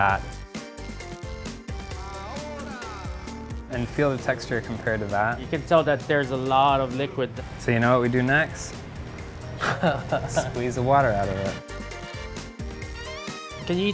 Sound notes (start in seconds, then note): 0.2 upbeat music; 9.6 laughs; 11.7 upbeat music